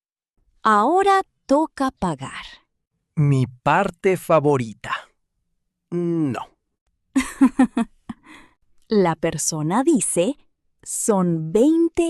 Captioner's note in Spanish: risas